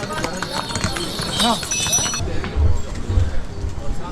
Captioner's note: crowd buzz and jangling bells